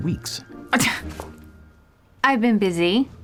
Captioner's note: scoffs